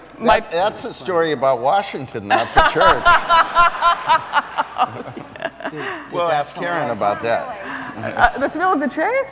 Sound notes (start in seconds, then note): 2.4 laughs